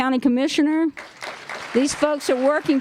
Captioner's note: applause